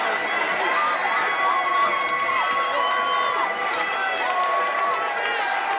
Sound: crowd cheering and clapping

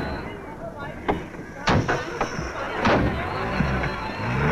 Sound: car Door Closes

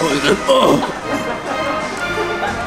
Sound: evil people cackling in the background

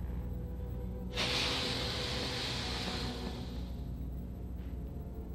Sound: dominant hissing

